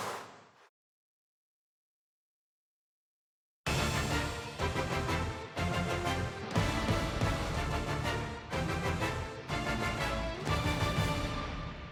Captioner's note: crowd noise